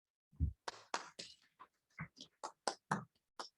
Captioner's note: applauding